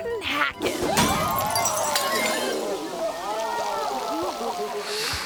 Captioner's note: glass shattering; champagne sploshes; crowd laughing